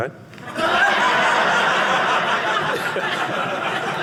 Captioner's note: audience laughing